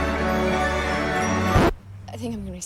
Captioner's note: record scratches, music stops